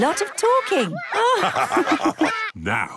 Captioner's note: all laugh